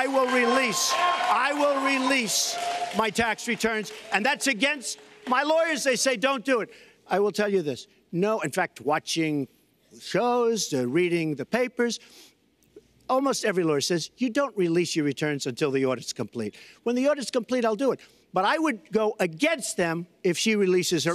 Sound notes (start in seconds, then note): 0.0 applause